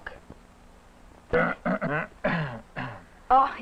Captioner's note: clears throat pointedly